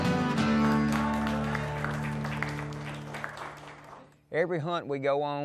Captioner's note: exciting music; applauding